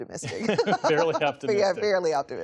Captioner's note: laughter